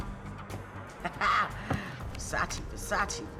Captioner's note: laughs